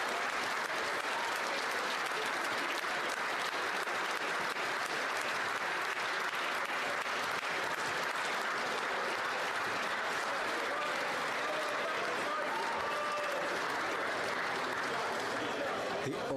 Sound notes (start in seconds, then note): 2.7 cheering and Applause